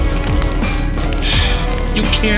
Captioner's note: sigh